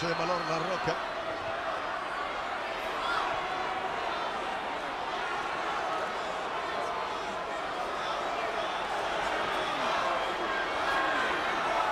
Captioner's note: applause